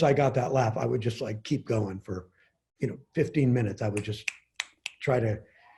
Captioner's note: snaps fingers